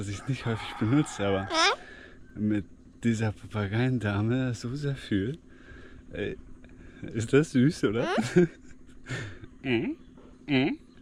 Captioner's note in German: gelächter